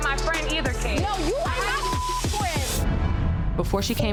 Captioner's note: beeps